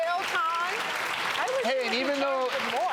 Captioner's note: audience applauds